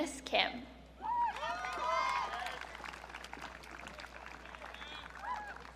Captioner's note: audience cheering